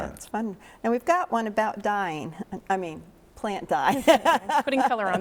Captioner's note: chuckles